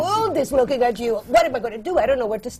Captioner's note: laughter from the panel